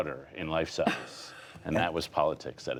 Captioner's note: laughter